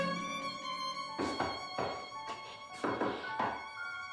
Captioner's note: knocking